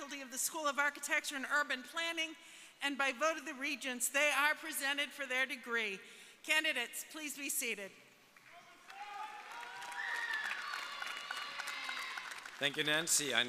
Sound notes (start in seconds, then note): 8.5 audience cheering